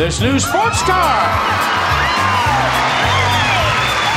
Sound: audience cheers

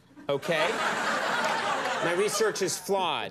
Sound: audience laughing

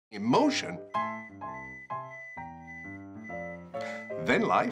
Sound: beeping in background

